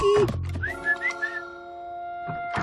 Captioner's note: whistles